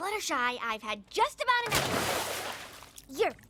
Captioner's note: splash!